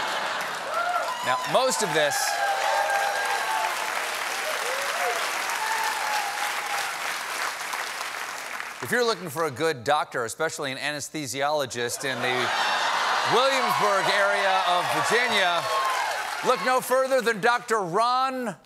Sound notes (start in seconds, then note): 3.9 applause; 3.9 laughter